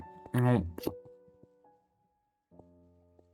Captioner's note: growling